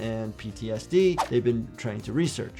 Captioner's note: video whooshes